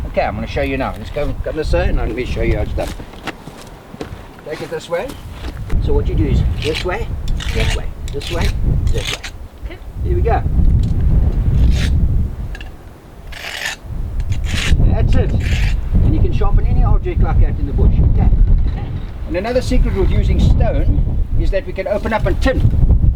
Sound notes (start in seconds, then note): 13.2 knife scraping